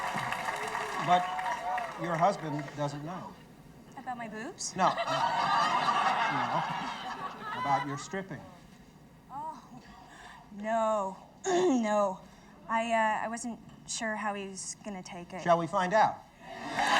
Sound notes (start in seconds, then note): 4.8 audience laughing; 11.6 throat clears